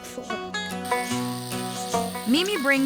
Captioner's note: buzzing, shearing